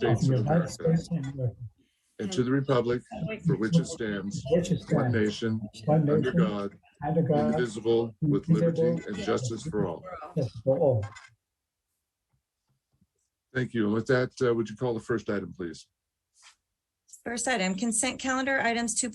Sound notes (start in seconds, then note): 4.6 reciting the pledge of allegiance